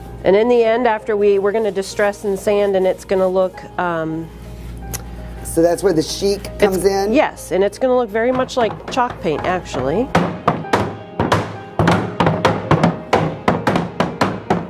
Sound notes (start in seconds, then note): 10.3 clatter from hammers